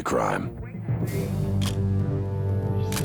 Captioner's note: camera shutter click